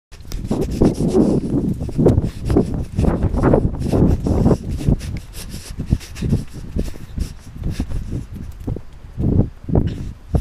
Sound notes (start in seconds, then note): 2.9 intense Running Noises; 3.4 running noises continue through video